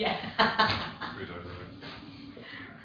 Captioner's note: audio distorts; laughs